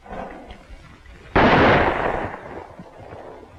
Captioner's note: gunshot